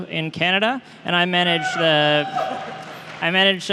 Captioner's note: cheering